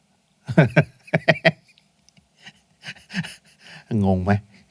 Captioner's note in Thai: เสียงหัวเราะ